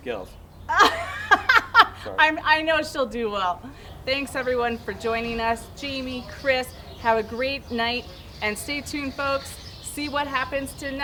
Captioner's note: laughs